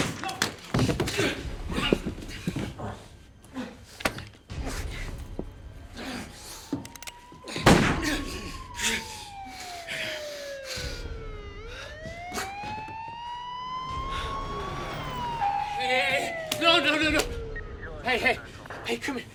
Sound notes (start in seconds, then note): 0.9 moaning and groaning; 5.4 police sirens wailing; 7.6 gunshot blares